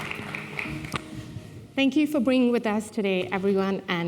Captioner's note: applause